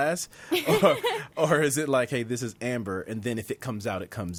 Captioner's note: laughs